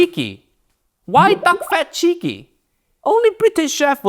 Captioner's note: bubbles gurgling